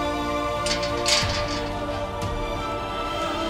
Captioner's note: gate opens